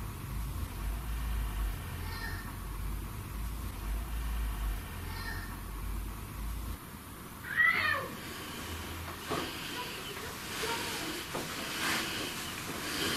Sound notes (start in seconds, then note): 7.4 child shouting; 9.1 footsteps thudding